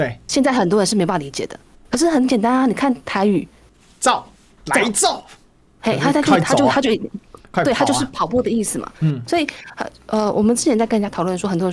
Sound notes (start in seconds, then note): 4.0 Taiwanese; 6.1 Taiwanese